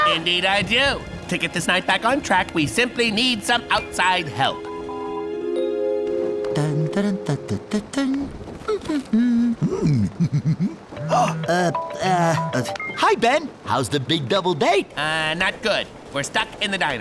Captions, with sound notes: Indeed I do. To get this night back on track, we simply need some outside help. [Hank humming happily] [chuckles] [phone rings] Oh! Uh... -Hi, Ben. How's the big double date? -Not good. We're stuck in the diner.